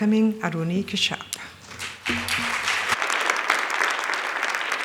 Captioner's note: applause